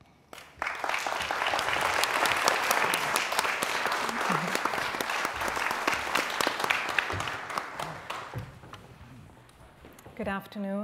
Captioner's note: applause